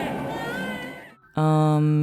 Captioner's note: crying baby noises